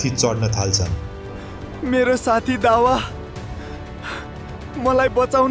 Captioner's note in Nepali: स्याँस्याँ गरेको आवाज